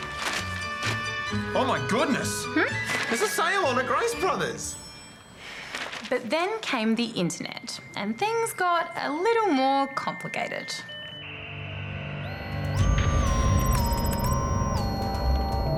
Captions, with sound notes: Oh, my goodness! Hmm? There's a sale on at Grace Bros. But then came the internet, and things got a little more complicated. (MODEM SCREECHES) (MYSTERIOUS MUSIC)